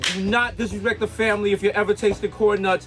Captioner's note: Mero claps